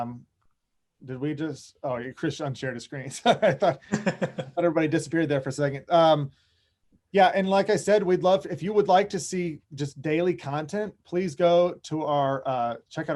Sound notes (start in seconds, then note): 3.2 person laughing; 3.2 laughs